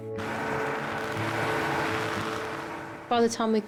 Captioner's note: gentle music; wind whips